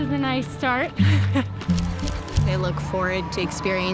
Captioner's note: laughs